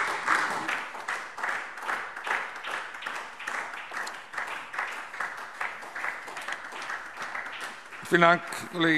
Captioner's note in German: Beifall SPD